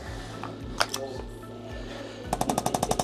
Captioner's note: tool shuffling; tool buzzing